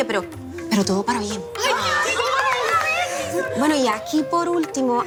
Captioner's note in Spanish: Exclamaciones